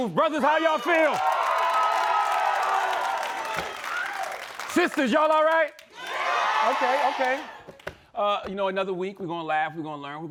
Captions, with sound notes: Brothers, how y'all feel? (cheering and applause) Sisters, y'all all right? (crowd cheering) Okay, okay. You know, another week we're gonna laugh, we're gonna learn,